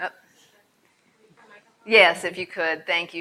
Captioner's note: speaking off mic